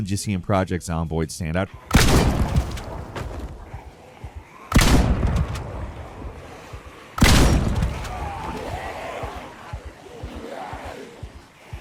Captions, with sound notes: just seeing "Project Zomboid" stand out. (gun firing) (zombies grunting)